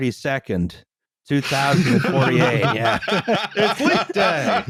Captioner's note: laughter